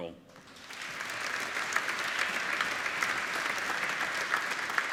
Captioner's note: applauding